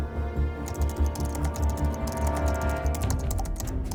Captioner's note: keyboard clacking